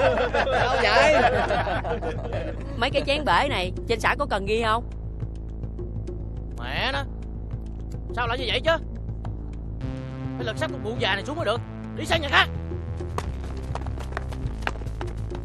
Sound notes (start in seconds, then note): 6.4 swearing